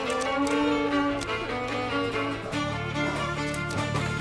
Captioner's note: howls softly